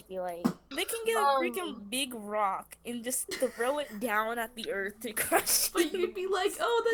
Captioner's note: giggle